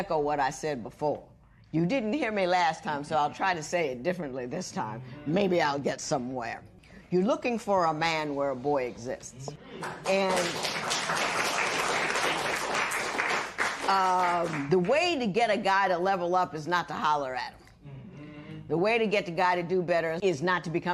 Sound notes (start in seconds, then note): 9.8 applause